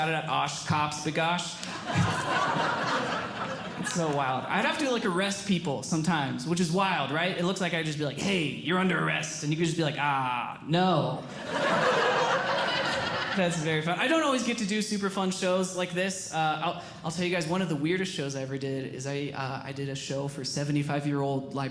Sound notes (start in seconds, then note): 1.6 audience Laughing; 11.2 audience Laughing